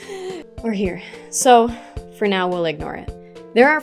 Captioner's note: deep breath in